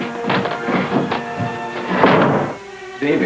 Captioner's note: door slamming; footsteps